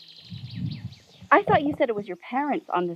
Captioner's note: birds tweeting